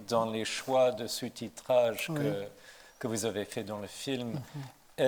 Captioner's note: panelists exchanging a few words in French; speaking in French